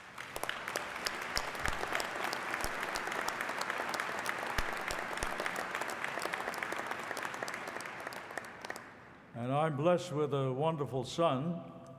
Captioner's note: applause